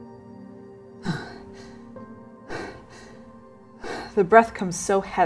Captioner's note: staggered breathing